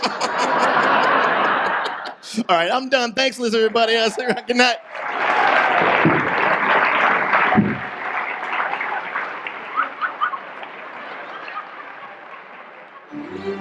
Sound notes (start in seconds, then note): 0.2 audience laughs; 5.2 audience applause